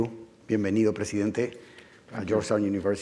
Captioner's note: speaking Spanish